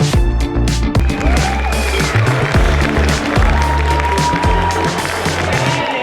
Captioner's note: crowd cheering and applauding